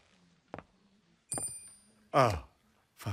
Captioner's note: coin clinks; footsteps approaching